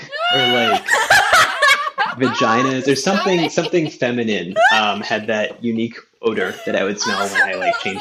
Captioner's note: shrieking